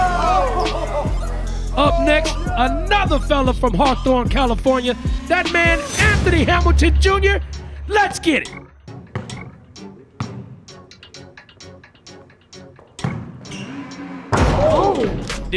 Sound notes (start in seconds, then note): 8.5 upbeat music; 9.0 ball bouncing; 13.0 ball bouncing; 13.0 ball dunking